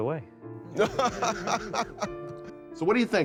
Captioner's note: laughing